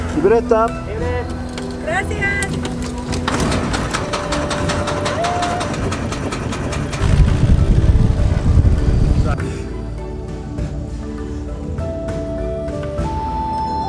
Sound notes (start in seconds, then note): 0.6 speaking foreign language; 4.7 tribal music